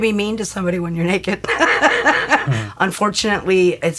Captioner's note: laughs